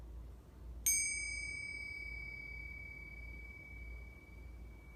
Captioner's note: bells ring softly